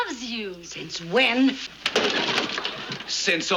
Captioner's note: clattering